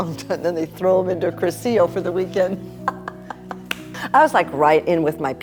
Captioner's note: laughs